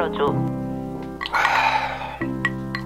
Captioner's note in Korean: 깊은한숨